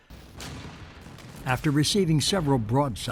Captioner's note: cannon blasts